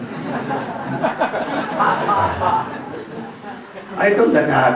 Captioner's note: смех